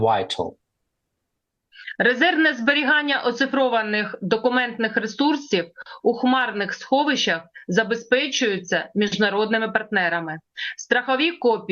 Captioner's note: foreign language